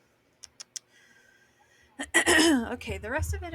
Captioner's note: tsking; clears throat